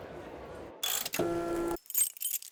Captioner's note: printer whirs; socket wrench clicks; keyring jingles